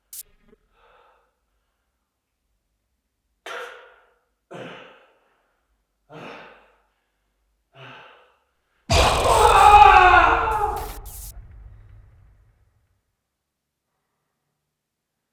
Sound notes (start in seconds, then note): 0.2 static crackles; 3.7 Jacob coughs; 4.8 Jacob panting; 8.9 Jacob screams; 9.1 nails scraping; 11.0 static crackles